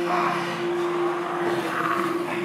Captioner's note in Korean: 속삭인다